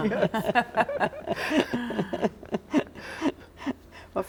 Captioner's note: all laughing